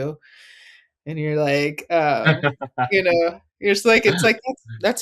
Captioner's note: laughing